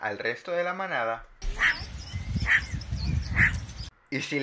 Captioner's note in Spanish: Ladrido de suricata